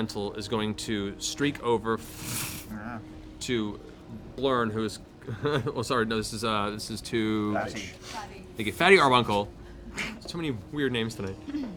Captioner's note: whoosh